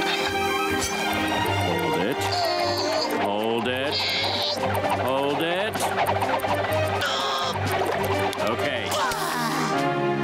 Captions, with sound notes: Hold it, hold it! [grunting] Okay. [sighing]